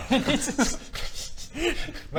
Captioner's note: giggles